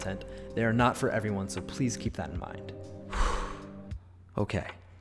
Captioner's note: exhales